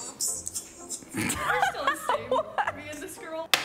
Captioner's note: laughs